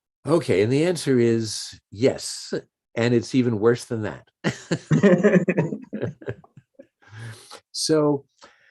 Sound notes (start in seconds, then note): 4.5 chuckles; 4.6 laughs